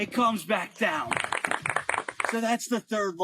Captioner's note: applause